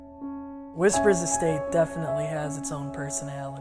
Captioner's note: voice over, male